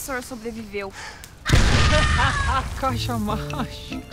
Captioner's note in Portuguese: outra explosão